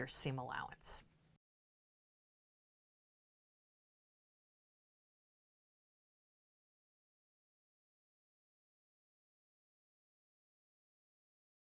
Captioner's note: no Sound Present